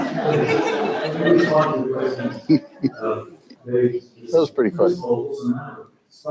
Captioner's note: crowd laughs loudly; faintly speaking